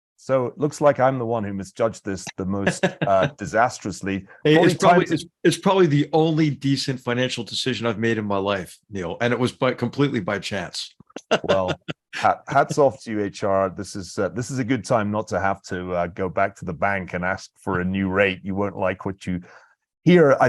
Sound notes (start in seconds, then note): 11.2 laugh